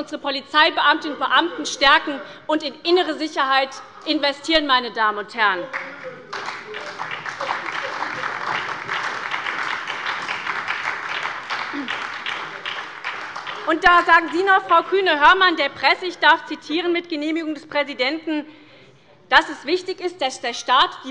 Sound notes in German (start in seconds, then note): 5.6 Beifall bei der SPD